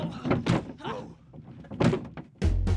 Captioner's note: thumping